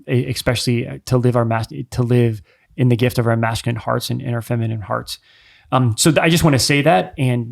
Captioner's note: none